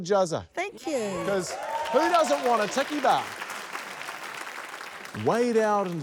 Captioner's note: cheers, applause